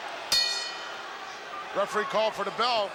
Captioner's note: bell rings